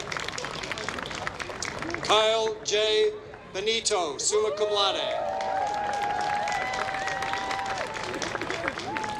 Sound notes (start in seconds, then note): 5.2 applause